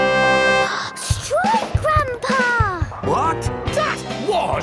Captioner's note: gasps